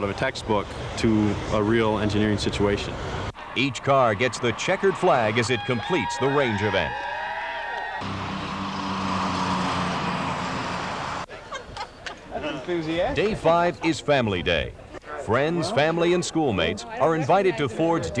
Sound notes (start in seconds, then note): 10.3 cheers; 11.3 laughing